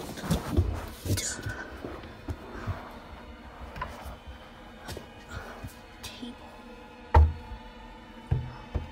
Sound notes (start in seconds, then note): 7.1 knock